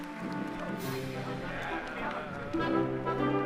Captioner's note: applause